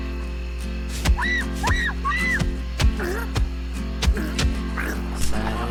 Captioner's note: soft music; person screams; fist thuds